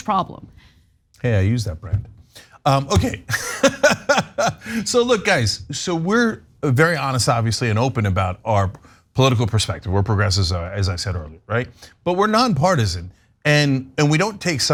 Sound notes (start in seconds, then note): 2.9 laugh